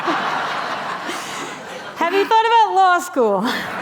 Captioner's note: laughter